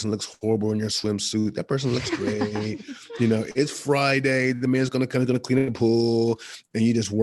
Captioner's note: all laugh